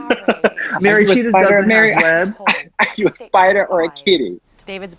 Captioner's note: laughs